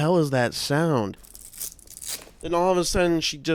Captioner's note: velcro being ripped